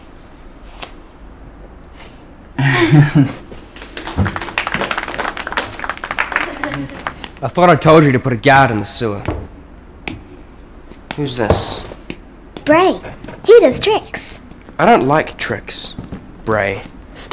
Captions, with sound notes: (giggling) (applauding) - I thought I told you to put a guard in the sewer. Who's this? - Bray, he does tricks. - I don't like tricks, Bray.